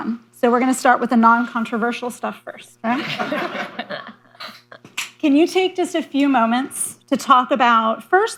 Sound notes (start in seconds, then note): 2.9 laughter